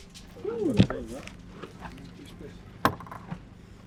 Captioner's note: group chattering